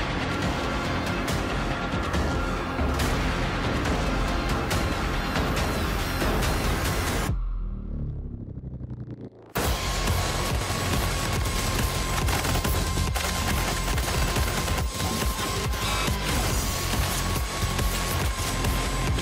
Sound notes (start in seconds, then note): 5.0 fast-paced music climaxing; 9.6 guns chattering